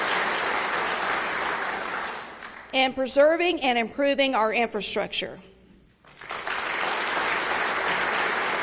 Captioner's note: applause